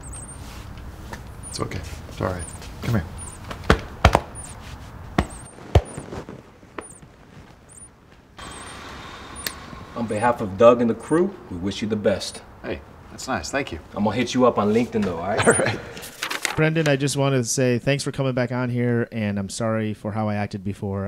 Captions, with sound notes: - It's okay, it's all right, come here. (patting) - On behalf of Doug and the crew, we wish you the best. - Hey, that's nice, thank you. - I'm gonna hit you up on LinkedIn though, all right? - All right. (page turning) - Brendan, I just wanted to say, thanks for coming back on here, and I'm sorry for how I acted before,